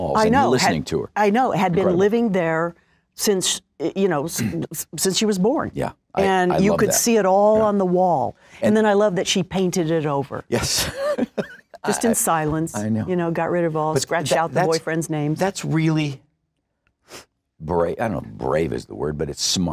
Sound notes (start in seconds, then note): 10.6 laughs